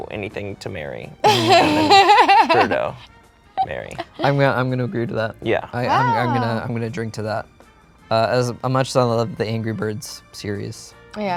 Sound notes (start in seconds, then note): 3.6 laughs